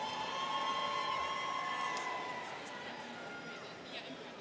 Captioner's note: students cheering